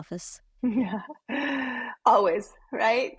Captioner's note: laughing